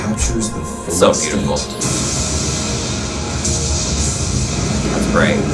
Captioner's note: storm raging